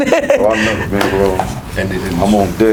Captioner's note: Gary laughs